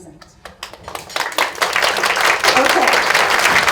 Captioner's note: audience claps